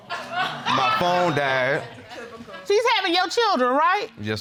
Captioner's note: audience laughs